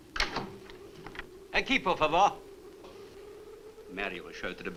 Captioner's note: Marlowe speaks Spanish